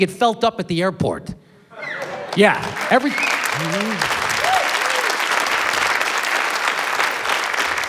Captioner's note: applause, cheering